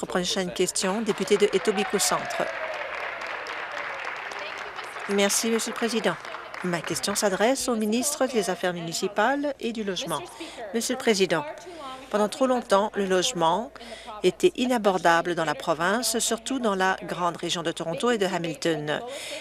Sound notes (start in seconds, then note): 0.0 applause; 3.7 applause